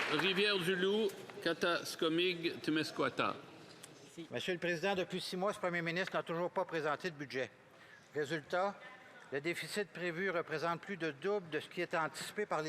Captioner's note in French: applaudissements